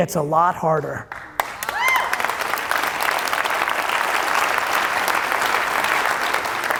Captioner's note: audience applauding and cheering